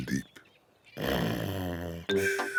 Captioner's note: yawns; snores; peppa pig and george giggling